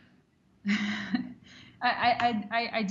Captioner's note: chuckles